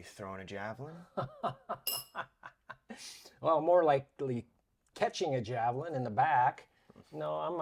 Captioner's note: laughs